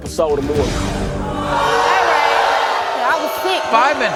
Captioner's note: audience yelling